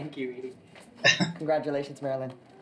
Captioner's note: chuckling